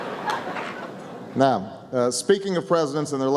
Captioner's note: laughter